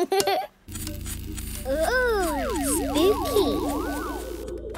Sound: pulsing

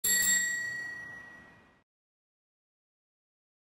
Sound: bell ringing

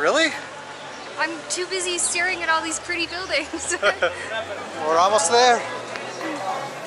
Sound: chuckles

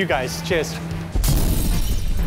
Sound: sfx: explosion

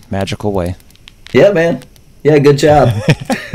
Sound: laughter

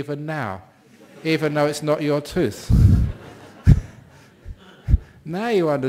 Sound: laughter

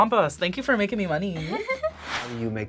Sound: laughs

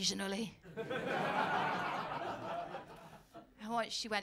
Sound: laughter

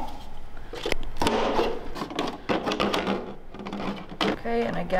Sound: jug rattling

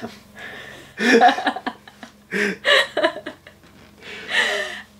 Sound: both laughing

